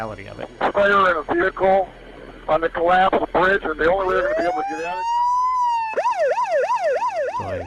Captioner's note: sirens